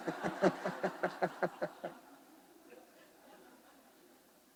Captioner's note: attendees laughing